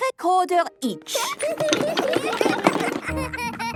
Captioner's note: laughter